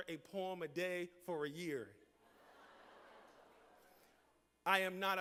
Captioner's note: laughter